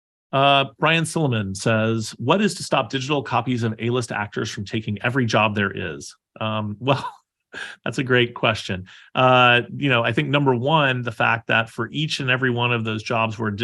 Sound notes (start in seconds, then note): 6.6 laughing